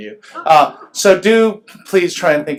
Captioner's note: laughs